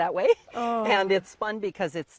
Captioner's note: laughs